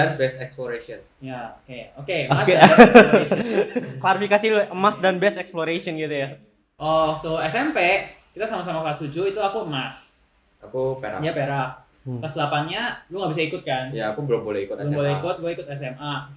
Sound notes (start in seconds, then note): 2.3 laughter